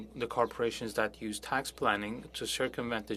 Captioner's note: speaking French